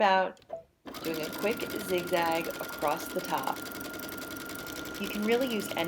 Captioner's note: machine sounds